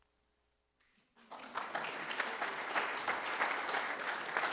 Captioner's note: applause